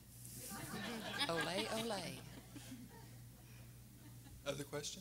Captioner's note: everyone laughing